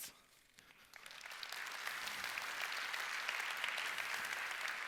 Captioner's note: applause